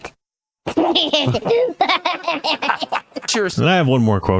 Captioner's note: laughing